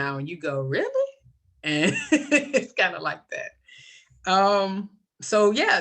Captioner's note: laughs